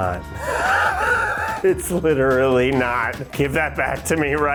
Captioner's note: laughs